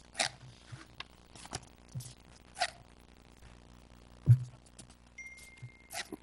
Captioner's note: pages turning and phones dinging